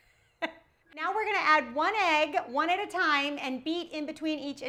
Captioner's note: laughs